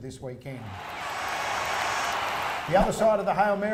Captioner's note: crowd cheering